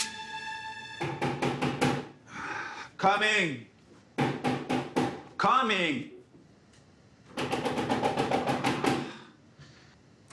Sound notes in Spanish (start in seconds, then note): 1.0 Golpes en la puerta; 4.2 Golpes en la puerta; 7.4 Golpes insistentes en la puerta